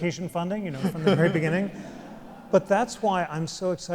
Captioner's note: laughs